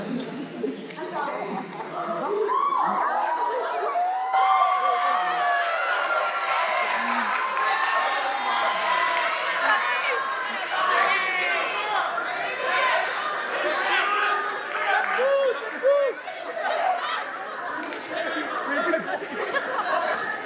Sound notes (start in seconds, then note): 3.2 applause